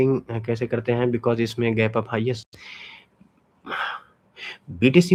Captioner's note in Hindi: अचानक ज़ोर से सांस लेने की आवाज़